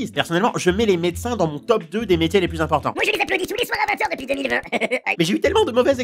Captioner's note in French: rires